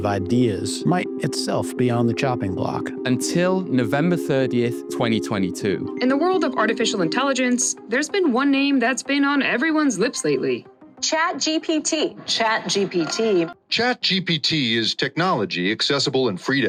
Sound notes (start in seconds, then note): 5.8 voiceover